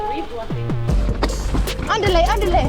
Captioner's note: lively music; air whooshing